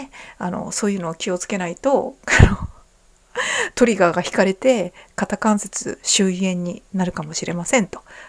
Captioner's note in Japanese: 笑い